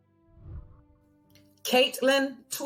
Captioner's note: whooshing